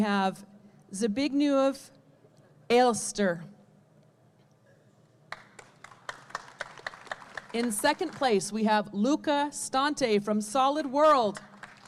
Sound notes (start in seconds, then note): 5.3 audience clapping; 11.3 audience clapping